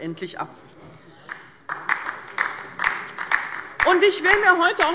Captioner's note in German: Beifall bei der LINKEN